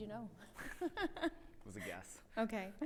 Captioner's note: chuckles